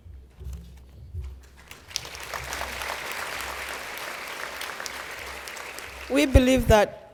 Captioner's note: applause